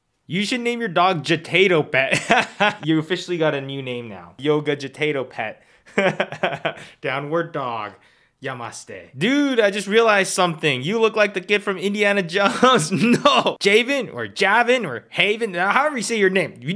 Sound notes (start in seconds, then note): 5.9 laughs; 12.5 chuckles